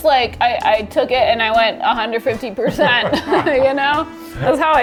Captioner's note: laughing